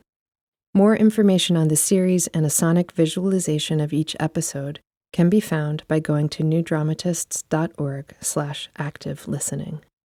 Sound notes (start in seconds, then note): none